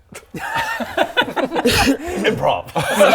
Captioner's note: selfish laughter